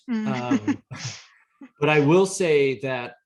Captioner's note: laughs